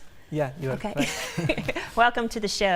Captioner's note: laughs